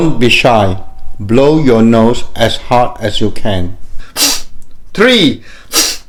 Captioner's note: deep breaths